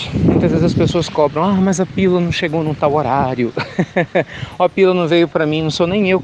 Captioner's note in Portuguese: Risos